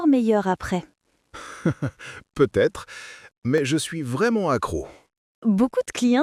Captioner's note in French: rire